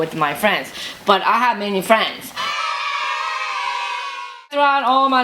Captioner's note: cheering